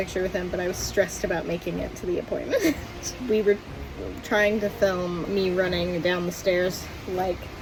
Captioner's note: laughs